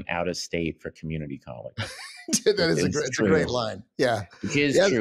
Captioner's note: laughs